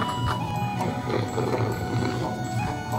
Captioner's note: slurpy slurp